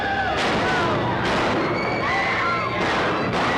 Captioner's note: women screaming